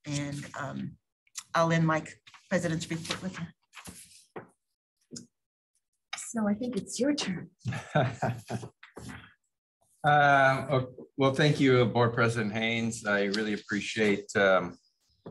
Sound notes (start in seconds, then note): 9.2 laughter